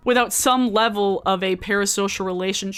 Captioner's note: none